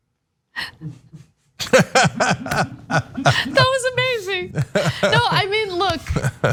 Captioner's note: laugh